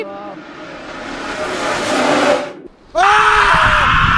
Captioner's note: frightening sound intensifies; desperate screams from everyone, monstrous cries